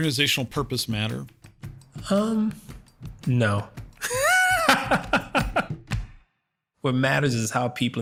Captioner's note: laugh